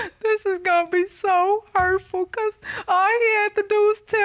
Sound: sobs

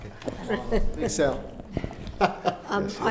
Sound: laughing

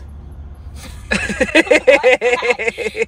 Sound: both laughing

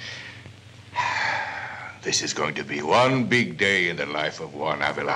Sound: sighs

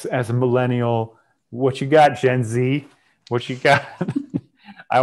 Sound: laughs

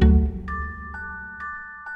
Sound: bright ringing

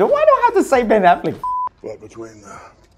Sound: beep

